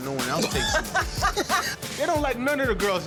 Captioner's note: laughs